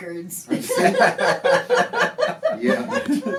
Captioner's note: all laughing